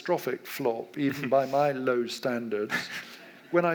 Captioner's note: laughs